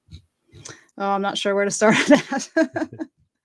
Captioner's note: laughs